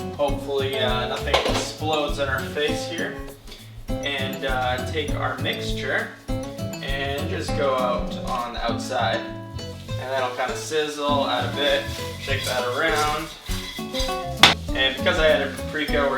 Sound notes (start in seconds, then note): none